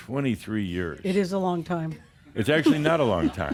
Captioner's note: she giggles